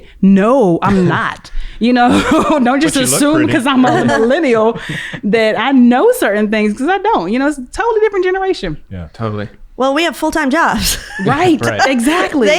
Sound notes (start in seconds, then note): 2.1 laughs; 10.7 laughs